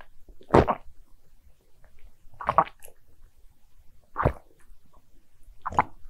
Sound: gulping

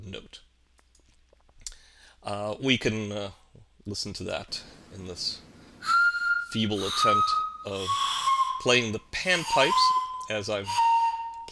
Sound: whitles

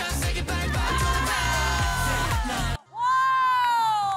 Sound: everybody shouts

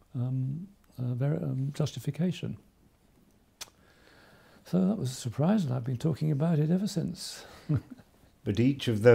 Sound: chuckles

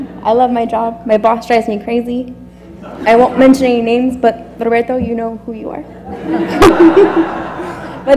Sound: laugh

